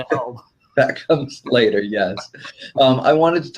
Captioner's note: laughs